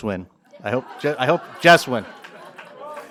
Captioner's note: applause